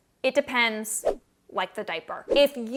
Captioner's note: air whooshing